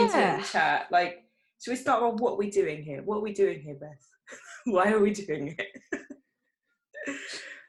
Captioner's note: giggles